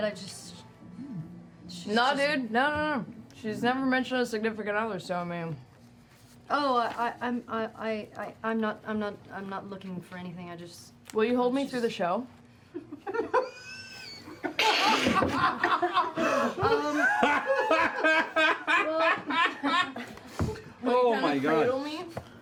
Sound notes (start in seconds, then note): 12.7 laughter